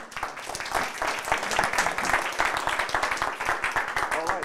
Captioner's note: applause